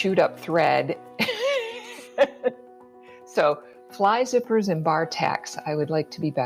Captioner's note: laughs